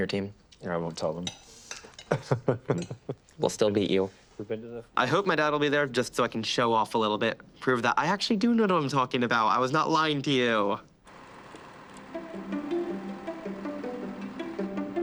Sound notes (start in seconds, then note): 2.1 laughs